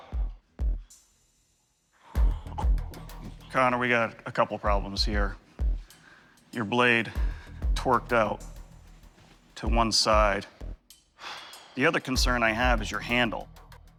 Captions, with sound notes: Connor, we've got a couple of problems here. Your blade torqued out to one side. [exhales] The other concern I have is your handle.